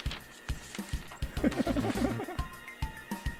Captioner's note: giggle.mp3